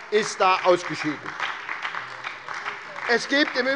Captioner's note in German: Beifall bei der SPD